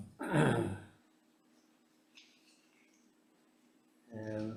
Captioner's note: clears throat